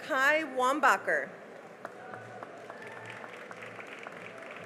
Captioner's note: cheering and applause